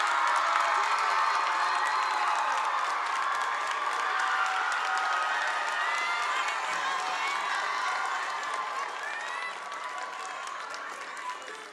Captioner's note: applause